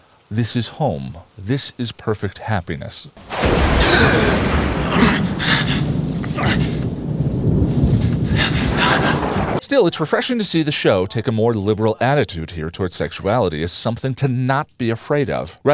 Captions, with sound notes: This is home. This is perfect happiness. [Lightning] [Thunder] Still, it’s refreshing to see the show take a more liberal attitude here towards sexuality as something to NOT be afraid of-